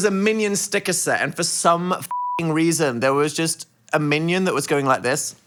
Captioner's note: beeps